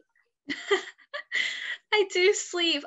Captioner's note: laughs